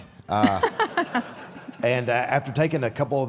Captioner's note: Michelle and audience laughs